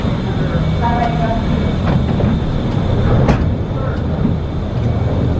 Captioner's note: indistinct chatters; machines roaring